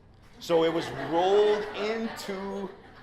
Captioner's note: laughter